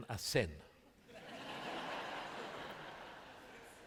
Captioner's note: laughter